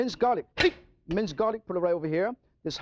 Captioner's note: knife clanging